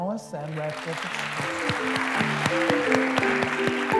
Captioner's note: applause